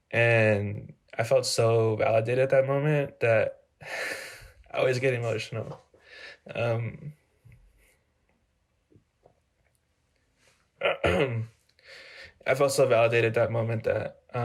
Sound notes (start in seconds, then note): 10.8 clears throat